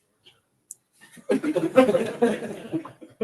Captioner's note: laughter